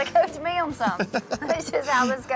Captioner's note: laughing